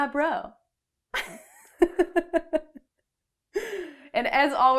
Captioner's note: laughter